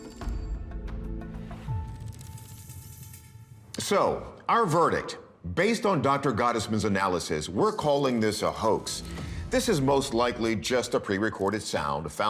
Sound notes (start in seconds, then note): none